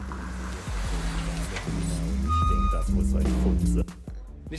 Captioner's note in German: Auto fährt vor